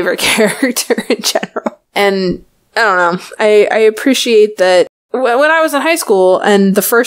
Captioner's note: laughs